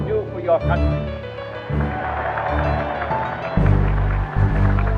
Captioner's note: cheering